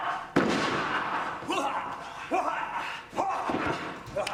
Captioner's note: men grunt; ring floor thuds; bodies thud